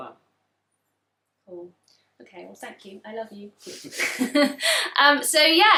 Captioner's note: laughs